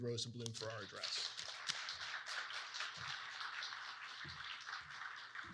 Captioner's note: audience clapping